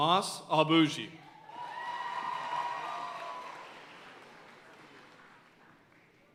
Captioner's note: audience cheering and applauding